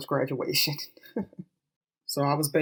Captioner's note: chuckles